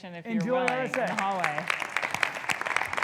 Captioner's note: audience applauding